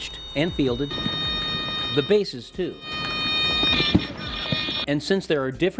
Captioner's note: alarm beeping